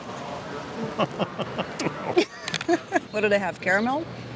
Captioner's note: laughs